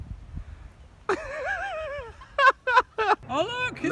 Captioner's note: laughs